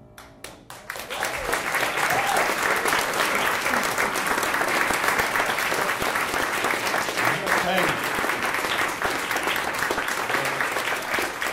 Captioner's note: applause